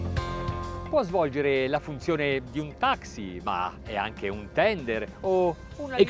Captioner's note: speaks in foreign language